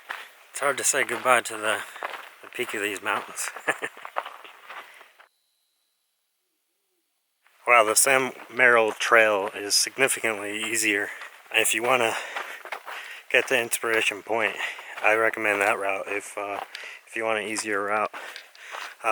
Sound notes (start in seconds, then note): 3.3 laughs